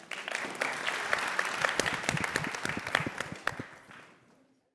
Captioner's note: audience claps